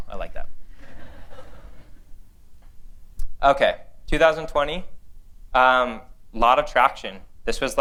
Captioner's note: laughter